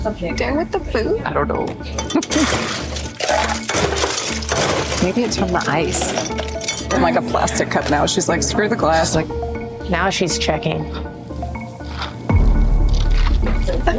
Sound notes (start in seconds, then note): 1.8 giggles; 10.8 tense music